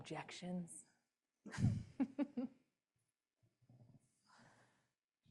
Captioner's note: laughter